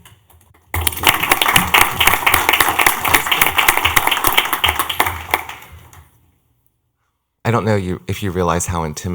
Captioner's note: clapping